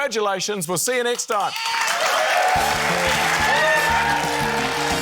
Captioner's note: cheering, applause